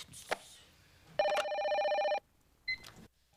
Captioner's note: telephone rings; ring